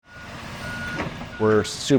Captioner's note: trucks whirring and beeping